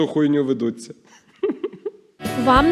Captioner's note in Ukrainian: сміється